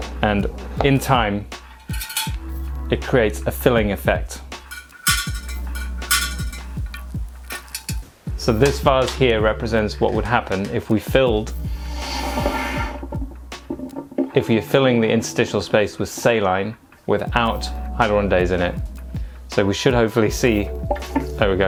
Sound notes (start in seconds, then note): 6.1 metal clanging